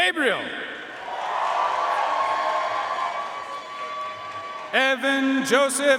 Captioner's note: audience cheering and applauding